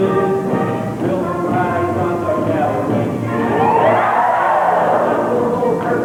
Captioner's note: whooping